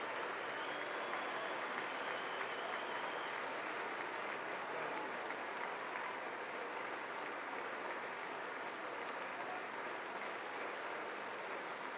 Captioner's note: applause